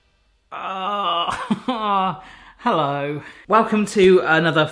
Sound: groans

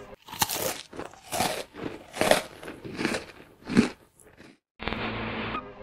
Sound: chewing

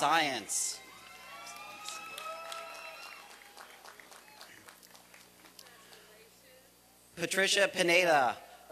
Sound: applause and cheering

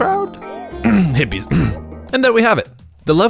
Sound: cough

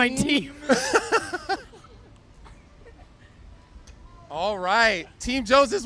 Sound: laughs

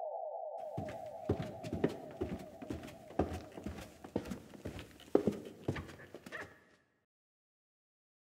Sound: footsteps in a silent room

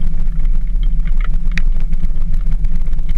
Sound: engine sounds

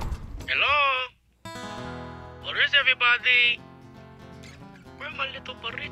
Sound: voiceover

